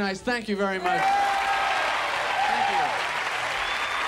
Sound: audience applauds

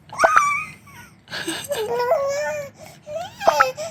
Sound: laughing

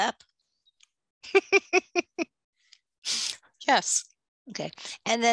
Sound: laughs

